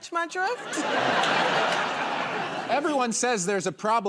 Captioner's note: laughter